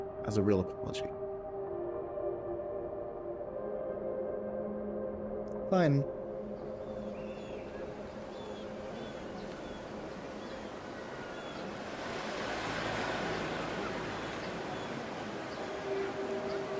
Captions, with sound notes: As a real apology? (gentle music) - Fine. (people chattering faintly)